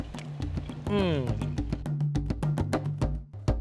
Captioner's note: groaning; drum music